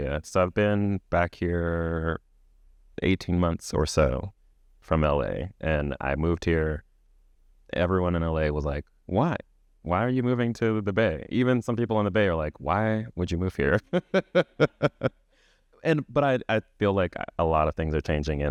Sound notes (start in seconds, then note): 13.6 chuckles